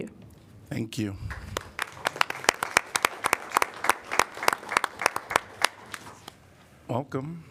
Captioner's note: applause